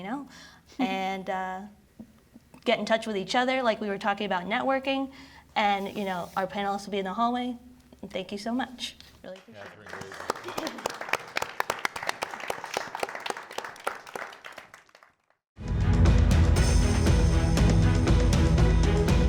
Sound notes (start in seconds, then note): 9.4 audience applauding; 15.6 upbeat music